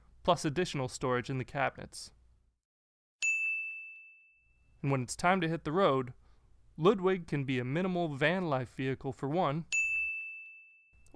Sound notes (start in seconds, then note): 3.2 bell rings; 9.7 bell rings